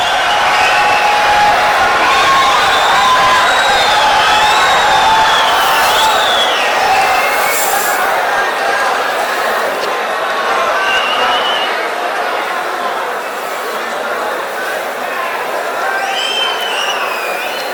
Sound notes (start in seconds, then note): 4.0 wild applause and cheering for 22 seconds